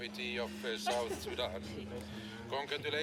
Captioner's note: laughs